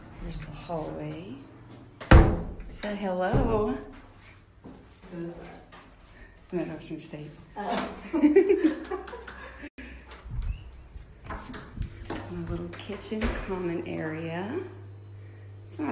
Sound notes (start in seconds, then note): 2.0 door shutting; 7.6 women laugh